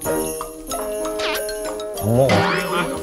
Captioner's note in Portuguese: Risos